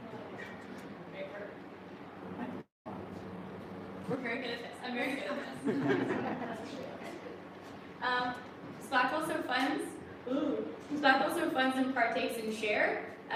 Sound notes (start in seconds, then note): 5.1 laughter